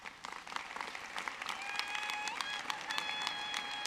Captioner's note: audience clapping